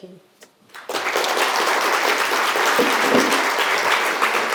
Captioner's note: audience applauding